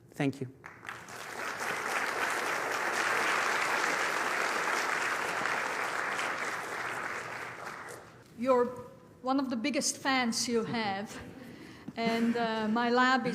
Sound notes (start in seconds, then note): 2.8 applause